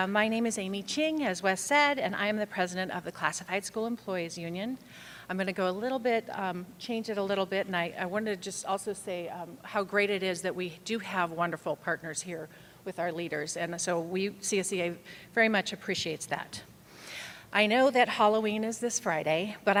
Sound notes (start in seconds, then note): none